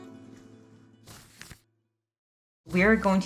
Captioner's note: page flipping